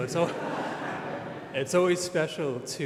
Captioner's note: audience laughs